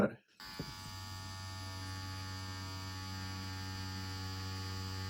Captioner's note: machine whirring